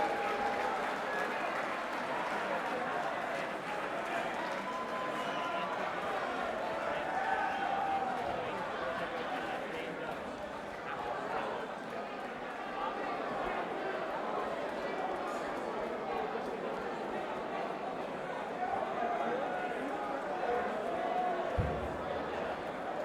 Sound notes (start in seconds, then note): 0.0 crowd cheering; 5.2 crowd chatter